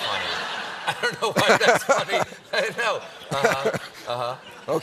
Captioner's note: laughter